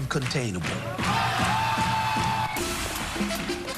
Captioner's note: wild cheering